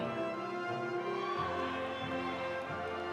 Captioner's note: audience applauding; audience cheering